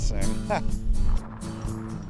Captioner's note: chuckles; air whooshing